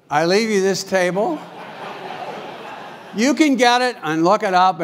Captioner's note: laugh